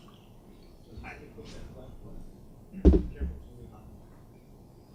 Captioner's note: faint speaking off mic